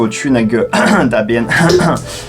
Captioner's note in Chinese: 咳咳